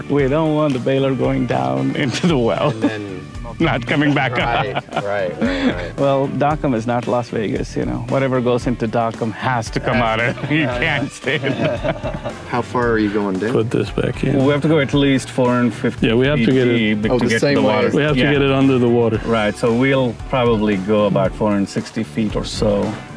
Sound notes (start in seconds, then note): 2.1 laughs; 9.4 laughs